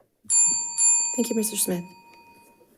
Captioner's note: bell dings